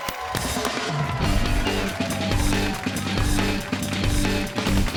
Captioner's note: cheers and applause